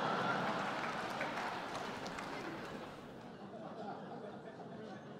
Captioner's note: laughter